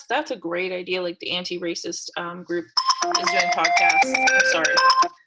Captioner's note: phone rings